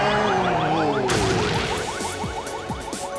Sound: thudding

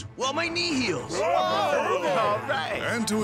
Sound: overlapping encouragements

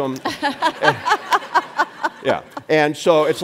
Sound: and audience laughs

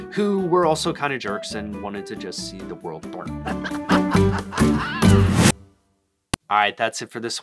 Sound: evil laughter until the world burns

